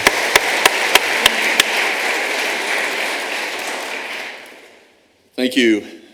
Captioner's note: applause